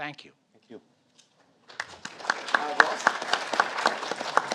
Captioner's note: audience applauding